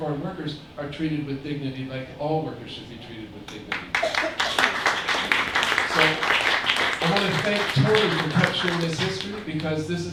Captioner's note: applause